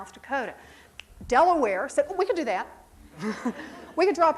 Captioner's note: snaps